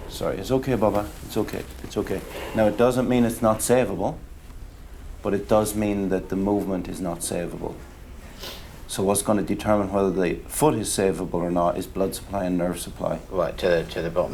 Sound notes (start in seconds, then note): none